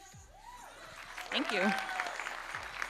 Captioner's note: audience cheering and applauding